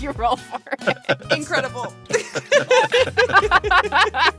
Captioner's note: laughs